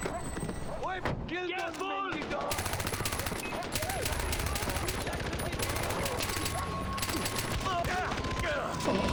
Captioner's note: gunfire